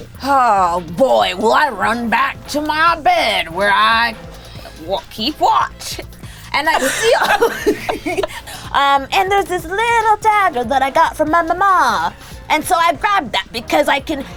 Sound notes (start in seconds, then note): 5.7 laughs